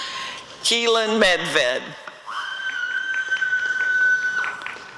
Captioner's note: applause and cheering